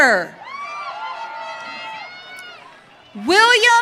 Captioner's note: audience cheering